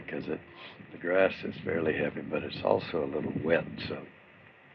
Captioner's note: none